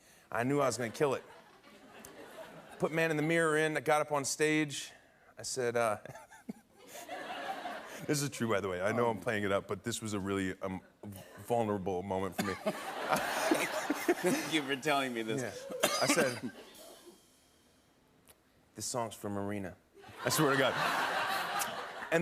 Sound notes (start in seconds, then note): 6.9 laughs; 12.4 laughter